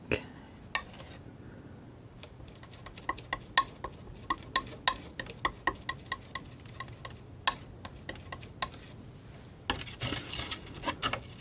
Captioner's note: tapping